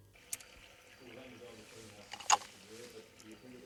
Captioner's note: water running